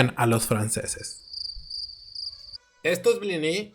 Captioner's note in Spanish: Sonido de grillo